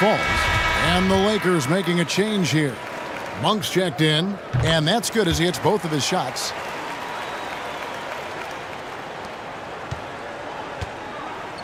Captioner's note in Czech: Potlesk